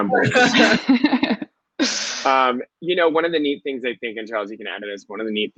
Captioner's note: laughing